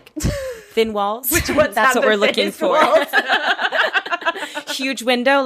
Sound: laughing

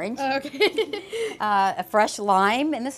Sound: laughs

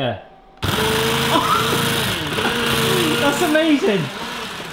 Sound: grinding

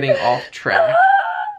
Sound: laughing

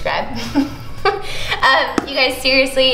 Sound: laughs

